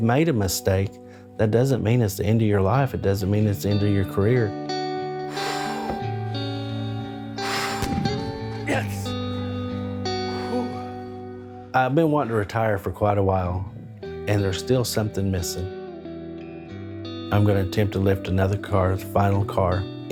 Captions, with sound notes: a mistake, that doesn't mean it's the end of your life. It doesn't mean it's the end of your career. (Blows into bottle) (Loud burst) Yes! Phoo! I've been wanting to retire for quite a while, and there's still something missing. I'm going to attempt to lift another car, the final car, in the